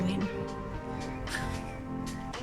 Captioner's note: laughing